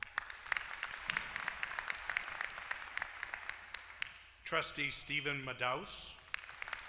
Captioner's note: applause; applause